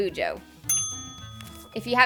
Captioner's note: ding